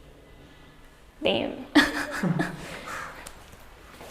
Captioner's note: laughs